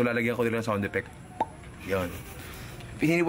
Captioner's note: pop